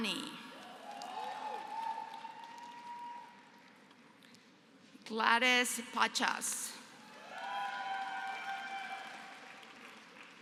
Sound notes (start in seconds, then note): 0.5 applause; 7.0 applause